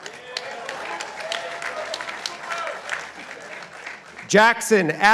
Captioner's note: participants applauding